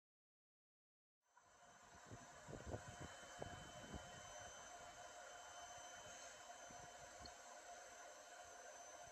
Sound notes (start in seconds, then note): 2.3 powerline static